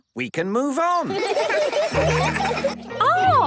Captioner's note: laughter